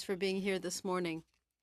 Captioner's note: speaking French